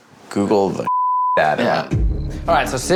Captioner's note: beep